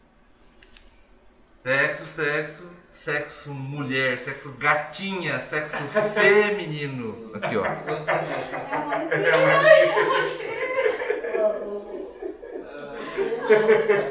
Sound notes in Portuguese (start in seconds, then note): 6.4 risos; 12.3 risos